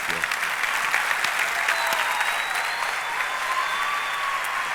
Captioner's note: applause